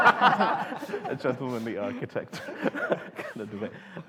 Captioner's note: laughter